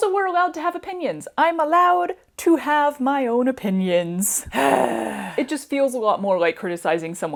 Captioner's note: groan